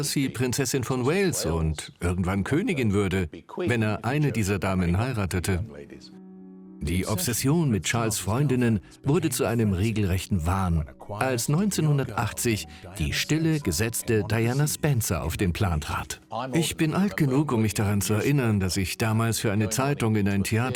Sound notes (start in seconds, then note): 6.8 voiceover